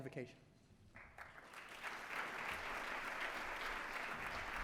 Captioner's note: applause